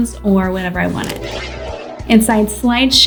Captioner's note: air whooshing